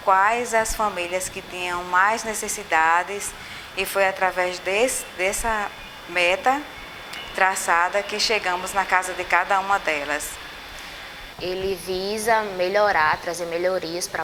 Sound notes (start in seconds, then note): 3.8 birds sing